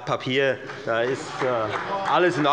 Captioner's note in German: Beifall des Abg